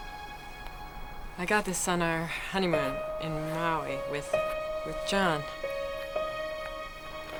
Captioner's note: laughing